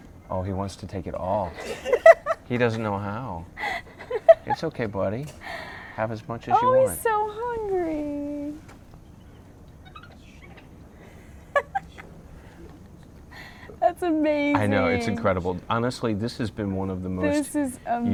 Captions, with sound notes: - Oh he wants to take it all. (laughter) He doesn't know how. It's okay buddy. Have as much as you want. - Oh he's so hungry! (monkey squeaks) That's amazing! - I know, it's incredible. Honestly, this has been one of the most unique trips.